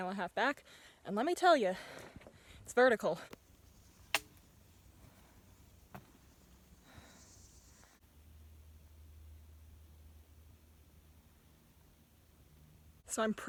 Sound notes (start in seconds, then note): 5.1 heavy breathing